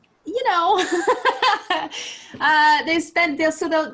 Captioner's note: laughing